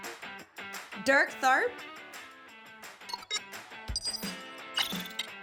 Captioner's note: electronic beeps